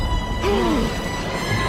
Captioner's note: gasp!